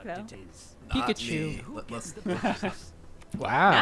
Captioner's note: laughs